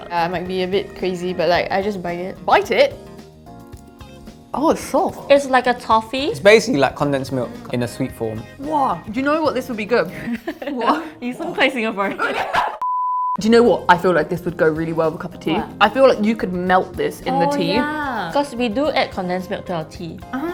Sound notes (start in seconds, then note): 10.1 laughs; 12.8 beep